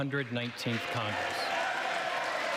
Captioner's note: cheers